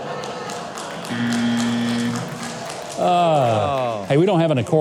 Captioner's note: audience laughing; buzzer blaring